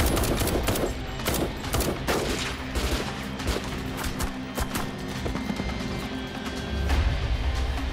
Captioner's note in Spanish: Disparos